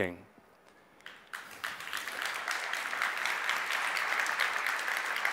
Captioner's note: audience applauds